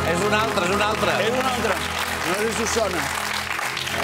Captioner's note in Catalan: aplaudiments